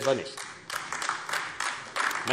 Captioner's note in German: Beifall AfD